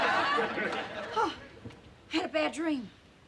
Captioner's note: gasps